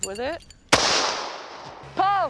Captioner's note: gunshot